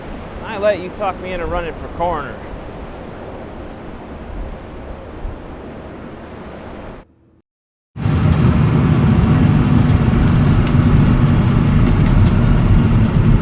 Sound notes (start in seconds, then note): 8.0 motor roaring